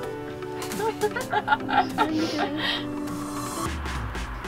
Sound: laughing

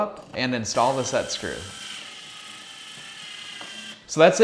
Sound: electric drilling

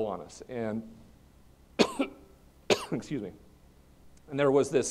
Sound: coughs

